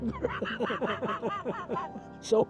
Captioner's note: chuckles